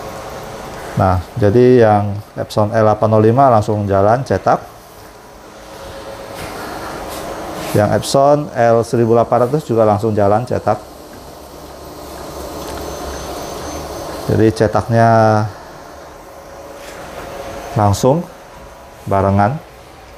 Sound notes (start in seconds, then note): 0.3 printer machine noise